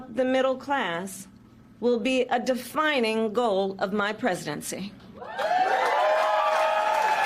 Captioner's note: cheers and applause